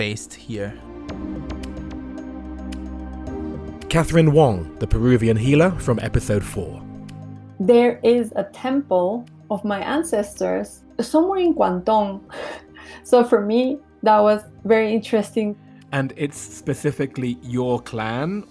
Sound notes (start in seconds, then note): 1.7 voiceover